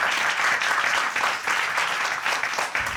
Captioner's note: audience applauding